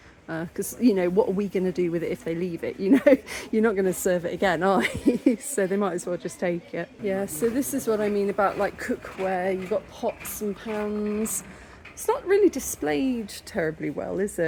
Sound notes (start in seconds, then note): 4.7 laughing